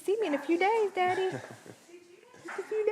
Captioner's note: chuckles